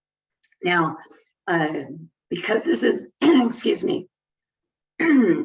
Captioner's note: clears throat